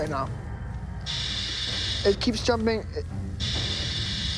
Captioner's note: whirring